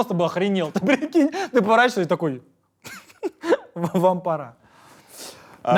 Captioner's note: chuckles